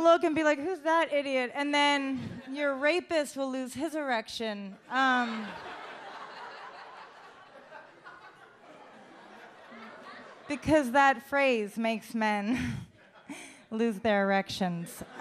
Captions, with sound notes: and be like, "Who's that idiot?" And then your rapist will lose his erection, (audience laughs) because that phrase makes men lose their erections.